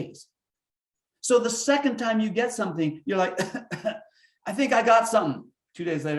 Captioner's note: coughing